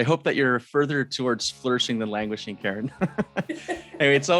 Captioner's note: laughs